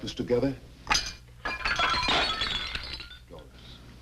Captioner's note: dishes shattering